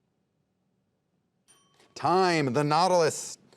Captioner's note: bell ringing